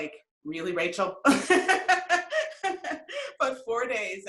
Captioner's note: laughs